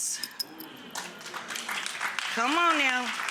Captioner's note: audience applauds